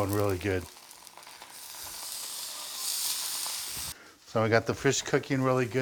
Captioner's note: fish sizzling